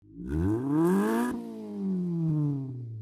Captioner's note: engine revs